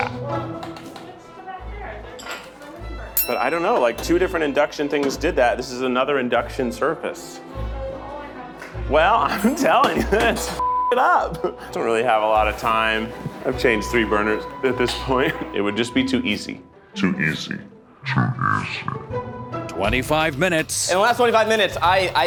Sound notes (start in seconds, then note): 10.6 beep